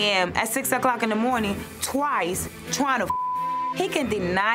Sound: beep

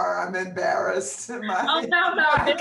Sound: laughs

